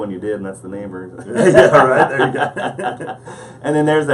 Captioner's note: laughing